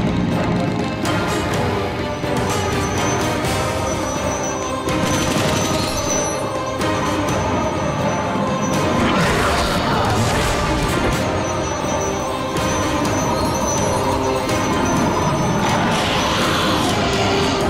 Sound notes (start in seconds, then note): 5.0 guns blasting; 8.6 growling; 11.7 mystical tinkling; 14.8 growling